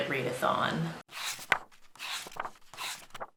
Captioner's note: pages turning